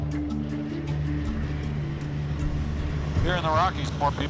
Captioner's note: plane soars